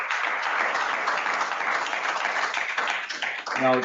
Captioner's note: applause